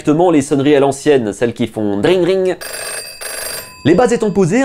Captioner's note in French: son de sonnerie